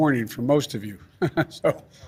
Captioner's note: laughs